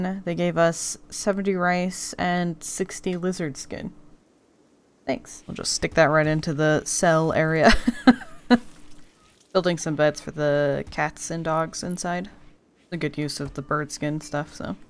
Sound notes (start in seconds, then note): 7.7 laughs